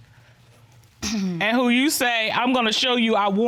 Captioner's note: clears throat